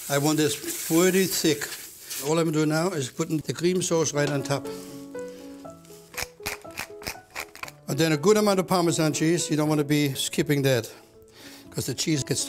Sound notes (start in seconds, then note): 6.2 grinding